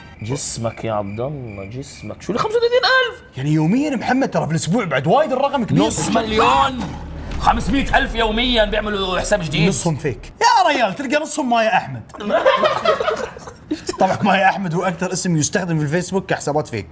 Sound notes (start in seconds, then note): 12.2 laughter